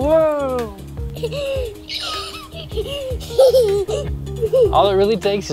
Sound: laughing

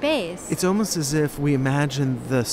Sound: voiceover

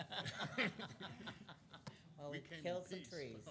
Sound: laughing

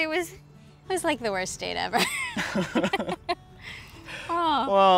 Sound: both laugh

